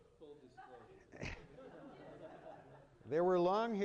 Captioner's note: laughter